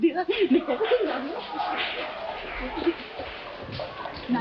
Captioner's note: laughing; people clapping